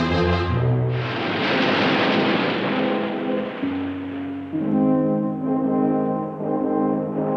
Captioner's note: waves crashing